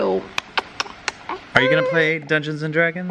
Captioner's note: kisses